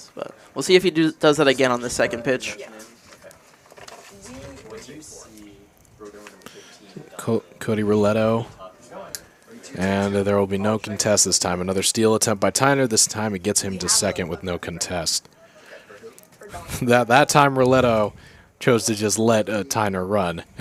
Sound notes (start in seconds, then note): 4.3 indistinct chatter